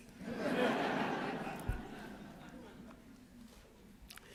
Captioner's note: laughter